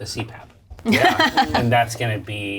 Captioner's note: laughs